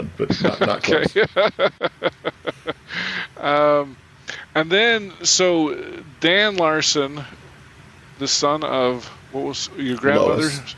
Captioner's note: chuckling